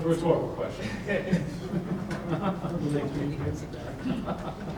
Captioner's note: laughing